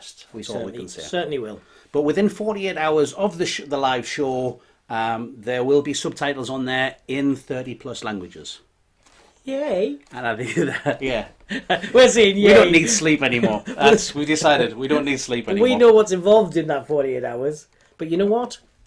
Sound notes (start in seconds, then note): 10.3 laughing